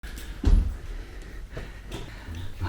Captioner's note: rough breathing